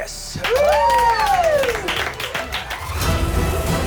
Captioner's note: cheering